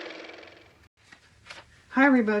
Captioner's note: car motor